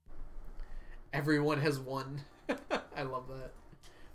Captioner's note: laughs